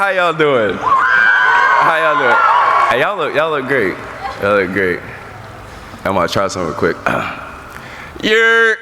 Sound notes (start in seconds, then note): 0.8 cheering